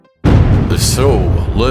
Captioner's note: boom!